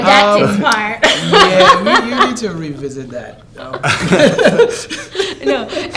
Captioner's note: laughter